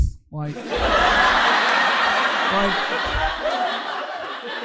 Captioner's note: audience laughing